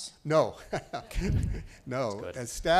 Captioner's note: laughing